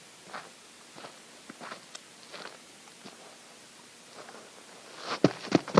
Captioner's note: quiet steps approaching